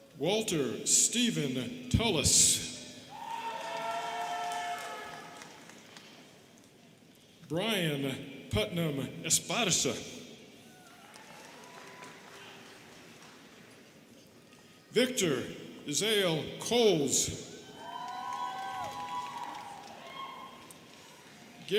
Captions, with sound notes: Walter Stephen Tulis. (students cheering and clapping) Bryan Putnam Esparza. (students clapping) Victor Izeal Coles. (students cheering and clapping)